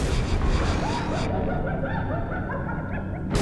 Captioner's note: cackling